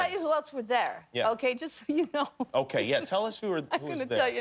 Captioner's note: laughter